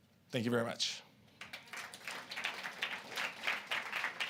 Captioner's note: applause